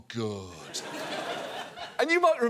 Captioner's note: audience laughs